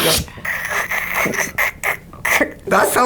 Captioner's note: hissing